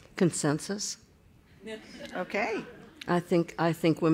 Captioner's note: laughter